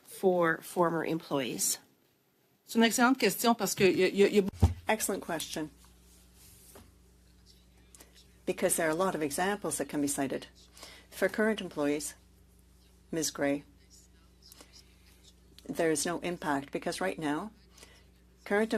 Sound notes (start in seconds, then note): 6.9 speaking French